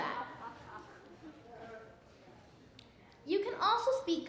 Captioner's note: laughing